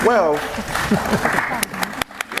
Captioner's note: clapping